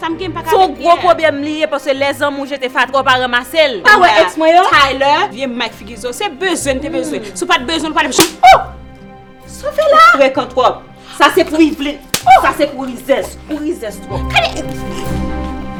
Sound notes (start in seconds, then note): 8.1 slap; 12.1 slap